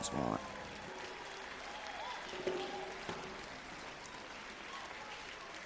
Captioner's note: audience clapping